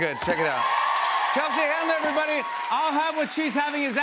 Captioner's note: cheers and applause